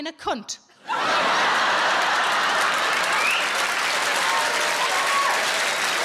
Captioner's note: audience laughing and applauding